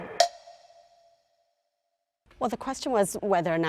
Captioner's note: clock ticks